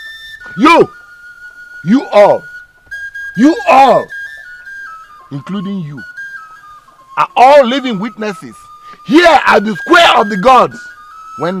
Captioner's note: screaming